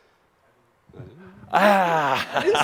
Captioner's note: Adamus chuckles